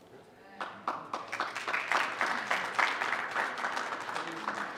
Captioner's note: group applauds